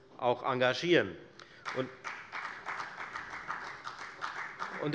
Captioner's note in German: Beifall bei der FDP